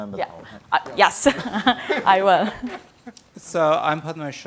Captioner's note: laughs